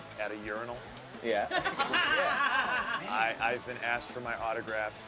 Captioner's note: laugh